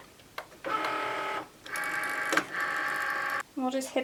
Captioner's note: machine whirs